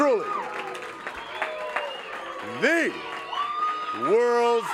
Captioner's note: crowd cheering